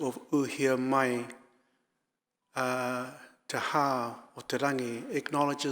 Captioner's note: speaking in foreign language